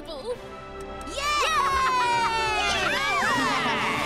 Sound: cheering; laughing

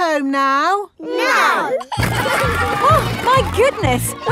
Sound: giggling

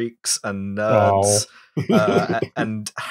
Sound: laughter

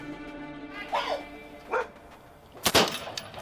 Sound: barking; gunshots

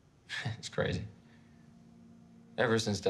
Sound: chuckles

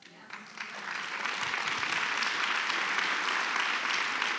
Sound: applause

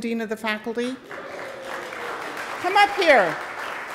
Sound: audience applauding

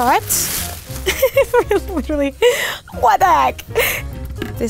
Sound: laughing

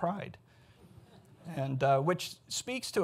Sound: audience chuckles

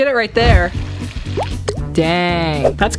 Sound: burning

